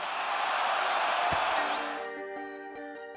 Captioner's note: crowd cheers; light music